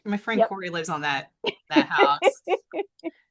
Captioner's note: laughs